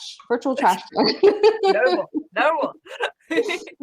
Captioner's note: laughs